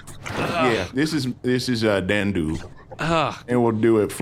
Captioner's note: squishing sounds